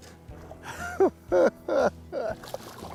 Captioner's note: giggles